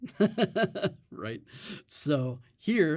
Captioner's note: chuckles